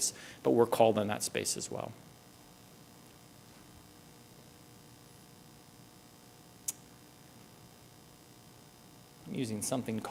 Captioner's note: pause